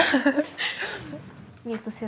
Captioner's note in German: Lachen